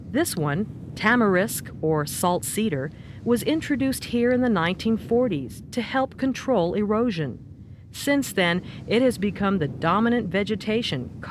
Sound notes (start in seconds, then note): none